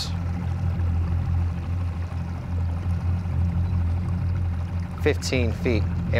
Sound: boat engine purring

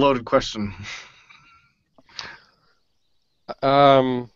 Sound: laughs

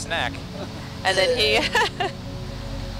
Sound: scientists chuckling

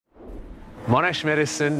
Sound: air whooshing

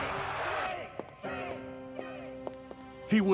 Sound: crowd in the distance

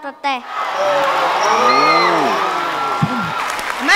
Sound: cheer and applause

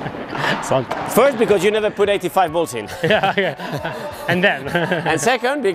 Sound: laughs

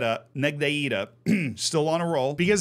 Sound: coughs

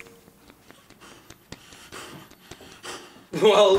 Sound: Father Anglicus breathing quickly

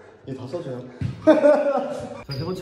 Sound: hahahahahahahahaha

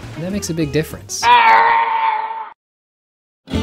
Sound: strangled yelling

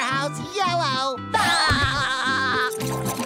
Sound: laughing

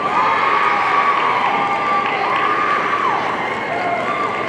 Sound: audience cheering

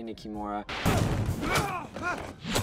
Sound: gun fires

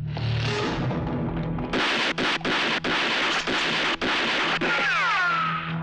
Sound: gun Firing

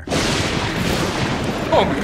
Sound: crashing thunder

